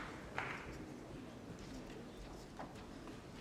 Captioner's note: applause